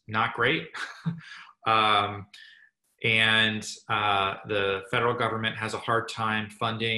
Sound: laugh

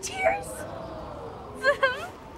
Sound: crying

